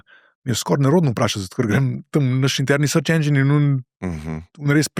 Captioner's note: coughing